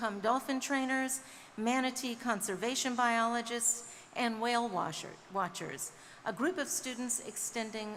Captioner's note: none